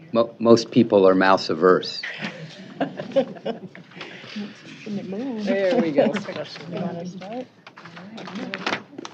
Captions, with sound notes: >> Most people are mouse averse. [ laughter ] [ indistinct chatter ]